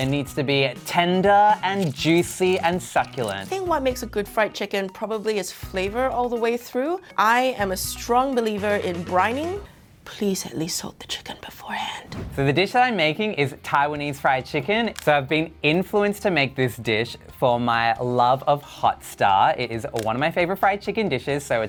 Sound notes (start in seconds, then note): 12.0 air whooshing